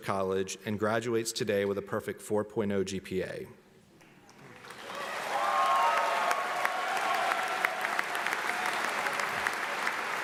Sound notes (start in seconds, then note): 4.6 audience cheering